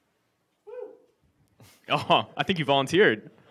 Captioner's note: audience member whoops